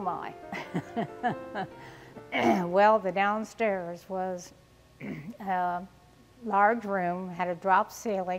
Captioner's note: laughing